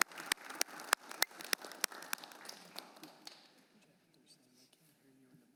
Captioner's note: applause